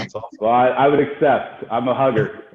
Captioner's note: laughing